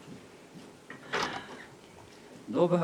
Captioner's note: firewood rattles